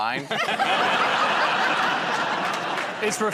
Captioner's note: laughter